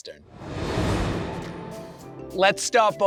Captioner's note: transition whooshes